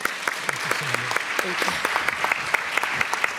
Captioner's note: applause